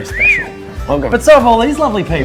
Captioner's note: whistling